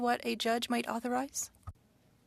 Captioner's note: speaking French